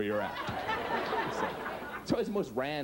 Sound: audience laughs

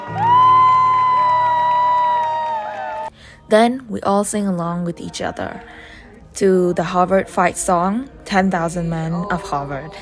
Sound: applause

